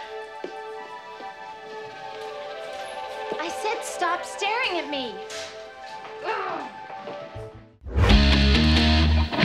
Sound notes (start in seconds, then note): 6.2 groans